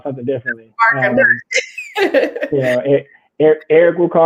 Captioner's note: laughs